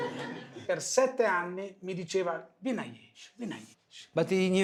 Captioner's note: speaking foreign language